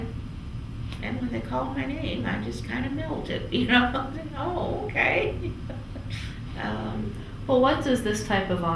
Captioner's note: laughs